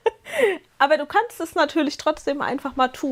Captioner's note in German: gelächter; japst